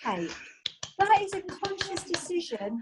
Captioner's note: clapping